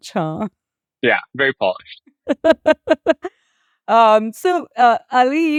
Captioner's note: chuckling